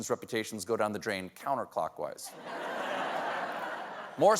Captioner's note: laughter